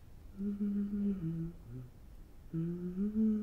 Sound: Fern humming

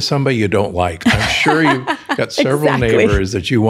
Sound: laughs

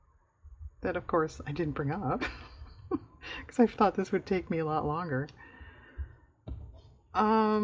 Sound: laughs

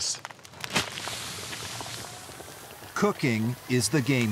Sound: water splashes

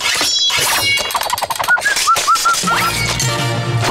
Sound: whistling

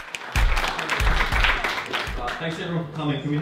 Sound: audience applauding

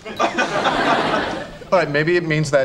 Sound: audience laughing

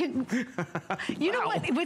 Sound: laughter

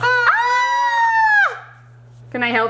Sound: screams

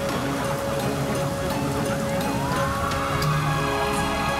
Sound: tense music playing; sirens playing

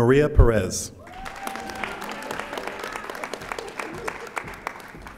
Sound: audience applauding

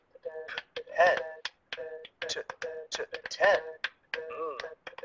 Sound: voiceover

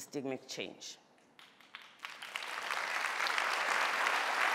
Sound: applause

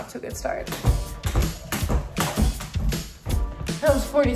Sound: rope hitting ground

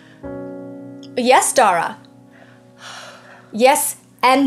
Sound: exhales

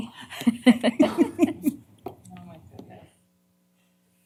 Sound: laughter

